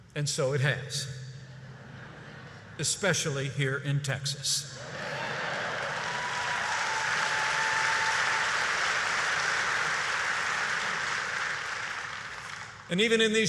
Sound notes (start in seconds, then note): 1.5 laughter; 5.0 applause